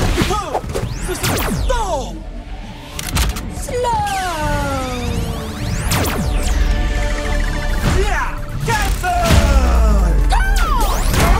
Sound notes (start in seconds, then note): 2.8 weapon clicks